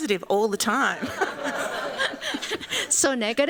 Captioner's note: laughter